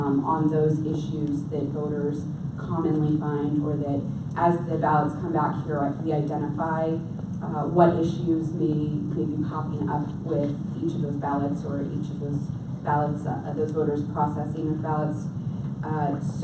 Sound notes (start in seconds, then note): none